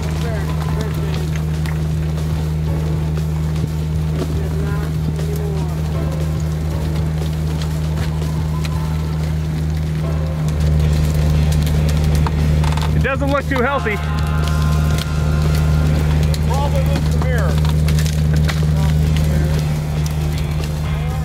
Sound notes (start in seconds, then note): 1.7 engine roaring; 12.5 winch creaking; 18.6 engine roaring